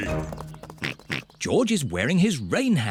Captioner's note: oinks